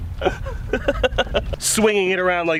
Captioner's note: laughs